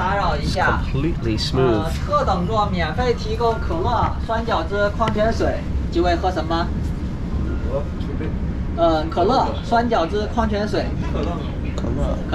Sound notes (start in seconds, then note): 2.4 speaking in Chinese